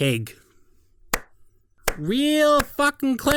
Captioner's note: claps in Fat